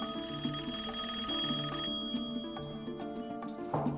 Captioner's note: rings